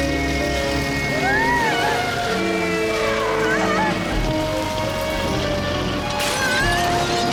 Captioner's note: tense music; Lilly gasps